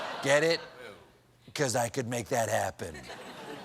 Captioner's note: laughter